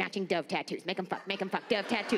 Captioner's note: audience laughs